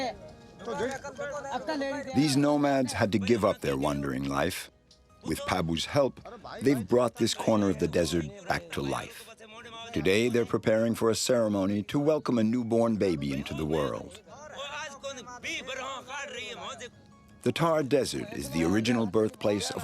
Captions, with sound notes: These nomads had to give up their wandering life. With Pabu's help, they've brought this corner of the desert back to life. Today, they're preparing for a ceremony to welcome a newborn baby into the world. [NON-ENGLISH SPEECH] The tar desert is the original birthplace